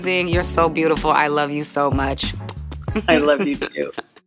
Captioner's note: blows pecks